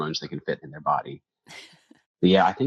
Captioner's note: chuckles